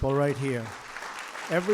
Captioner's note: applause